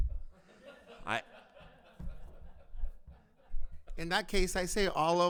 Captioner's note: board members laughing